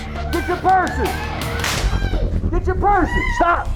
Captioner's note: gun fire